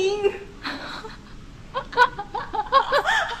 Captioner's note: friend laugh